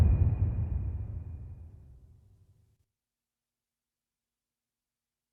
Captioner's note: dramatic sound